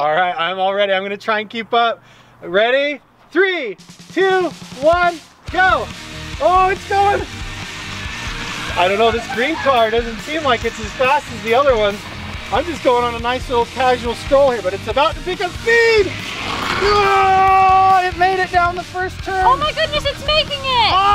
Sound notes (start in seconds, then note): 17.0 yelling